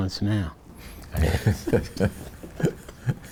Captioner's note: chuckles